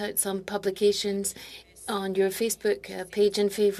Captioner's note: speaking French